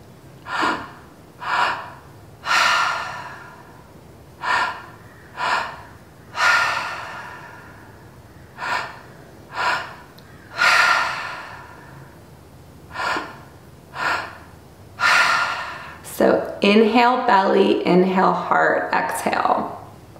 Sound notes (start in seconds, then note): 0.4 exhale; 0.4 inhale; 4.4 inhale; 4.4 exhale; 8.4 inhale; 12.9 exhale; 12.9 inhale